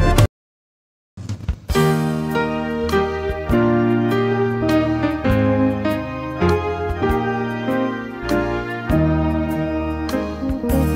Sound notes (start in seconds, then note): none